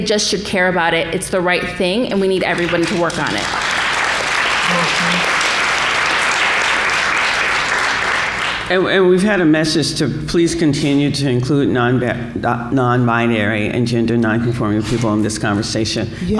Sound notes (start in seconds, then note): 2.5 applause